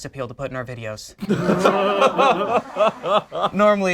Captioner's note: group laughs